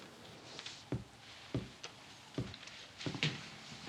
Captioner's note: footsteps approach